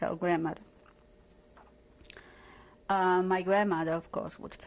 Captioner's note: pauses for 3 seconds